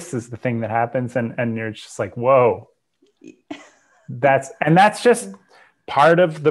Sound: laughs

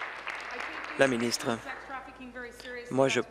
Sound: applause

